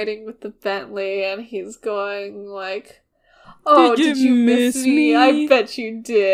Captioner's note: in a talking to cats voice